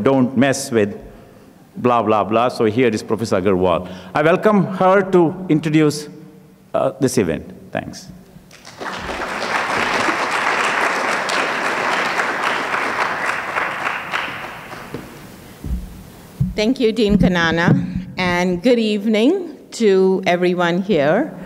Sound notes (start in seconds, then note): 8.4 audience clapping; 14.2 footsteps